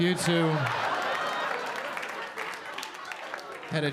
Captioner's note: audience laughing